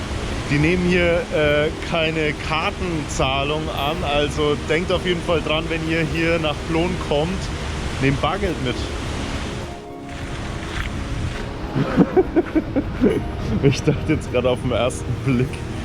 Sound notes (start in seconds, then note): 11.4 laughs